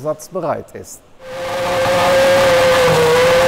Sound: engine sounds

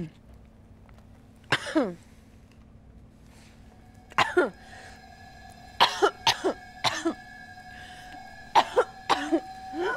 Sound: coughing

